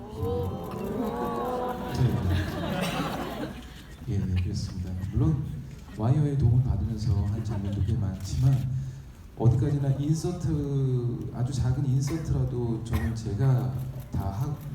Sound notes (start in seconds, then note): 2.8 laughing; 4.3 speaking in foreign language